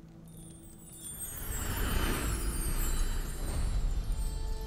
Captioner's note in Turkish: Çan sesi